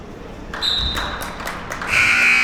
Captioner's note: spectators applauding; buzzer sounding; whistle being blown